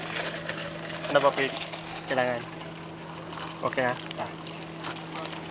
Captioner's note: speaking in foreign language